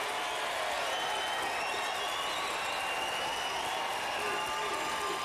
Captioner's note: applause